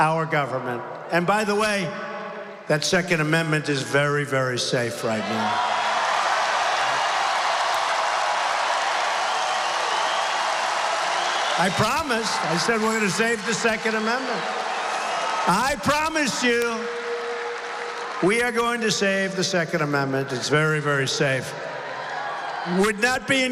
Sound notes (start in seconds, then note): 11.3 applause